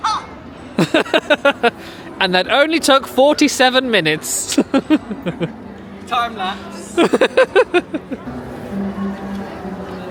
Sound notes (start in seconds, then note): 0.8 laughing; 6.9 chuckles; 6.9 laughing